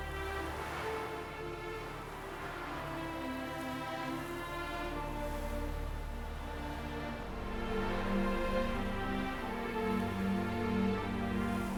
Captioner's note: wind blowing